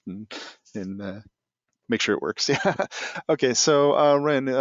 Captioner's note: laughing